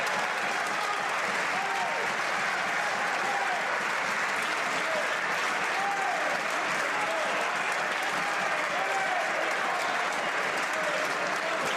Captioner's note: some Applause